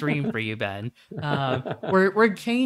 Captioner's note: chuckles